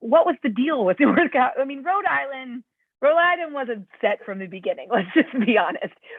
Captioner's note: laughter